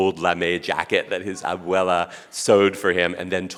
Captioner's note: speaking Spanish